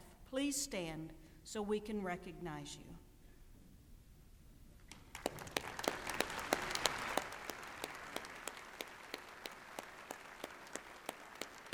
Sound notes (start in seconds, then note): 4.9 applause